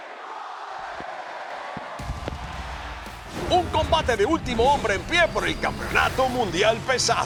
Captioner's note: applause